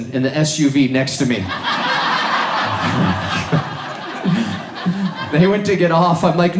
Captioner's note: audience laughs